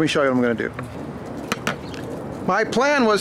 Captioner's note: tapping